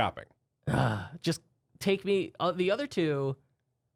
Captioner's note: loudly sighs